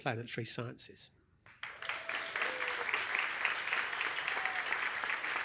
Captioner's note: applause